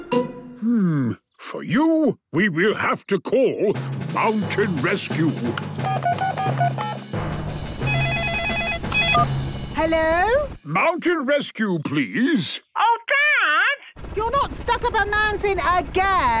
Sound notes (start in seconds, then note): 5.8 phone beeping; 7.8 phone ringing